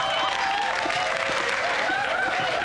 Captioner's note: cheers and applause